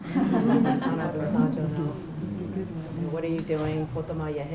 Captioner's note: chuckles; non-english speech